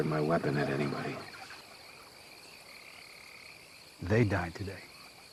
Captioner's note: crickets chirping